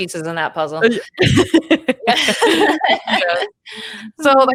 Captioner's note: laughs